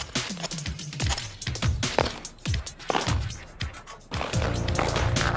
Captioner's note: upbeat music; skates slice ice; cool music